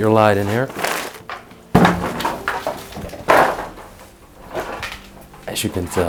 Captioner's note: shuffling through stuff